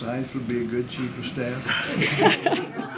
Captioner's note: laughter